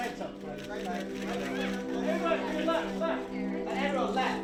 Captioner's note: camera clicks